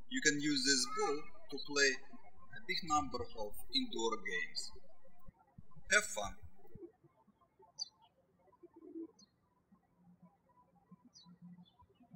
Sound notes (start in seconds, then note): 7.2 birds chirping